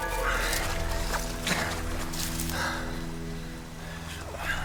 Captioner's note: heavy breathing/panting